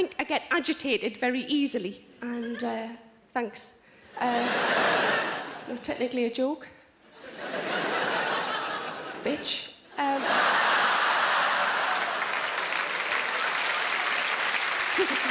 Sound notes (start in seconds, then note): 4.2 audience laughing; 7.1 audience laughing; 11.9 audience applauds; 14.9 giggles